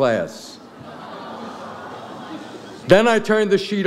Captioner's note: audience laughs